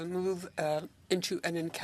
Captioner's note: speaking French